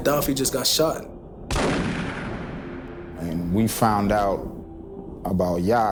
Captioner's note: gunshot firing